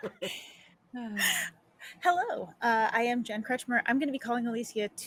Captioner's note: laughing